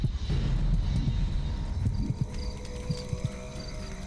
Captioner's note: heart beating